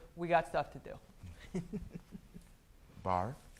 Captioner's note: soft laughter